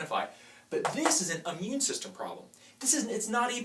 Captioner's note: tapping